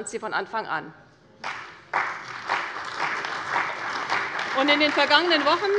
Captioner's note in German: Beifall bei der CDU und dem BÜNDNIS 90/DIE GRÜNEN